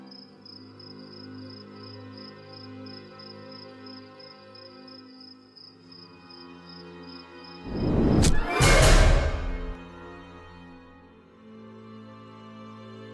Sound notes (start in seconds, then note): 7.6 whoosh and hit